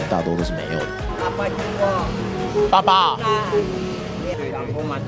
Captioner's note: speaking Hakka